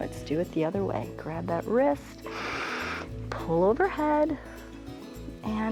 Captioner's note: inhales